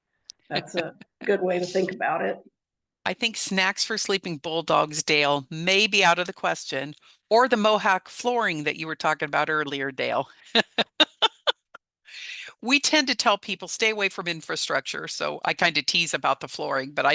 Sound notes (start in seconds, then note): 10.5 laughs